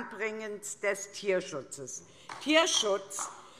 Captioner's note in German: Beifall